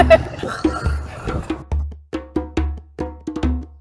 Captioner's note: laughter